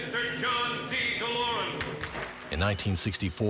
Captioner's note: applause